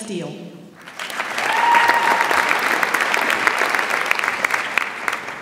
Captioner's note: audience applauds